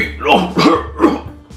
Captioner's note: cof cof